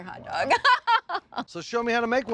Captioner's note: chuckling